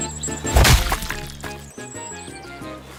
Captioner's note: splat!